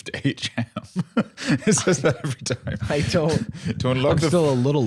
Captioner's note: laughing